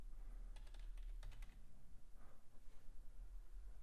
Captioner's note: typing